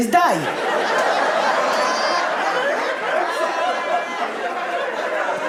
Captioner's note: audience laughing